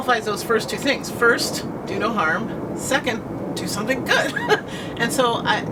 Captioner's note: laughter